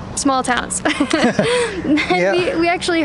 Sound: laughs

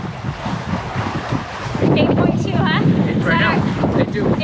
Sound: wind blowing

